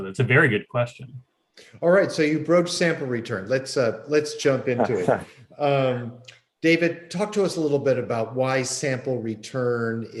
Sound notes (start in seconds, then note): 4.7 laughs